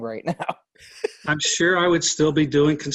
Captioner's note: laughing